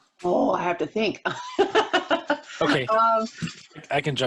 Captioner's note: laughs